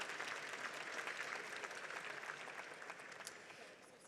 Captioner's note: audience applauds